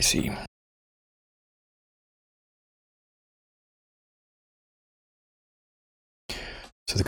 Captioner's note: blank Audio